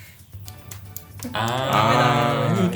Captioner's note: ASMR sounds